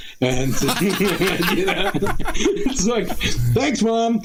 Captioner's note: laughter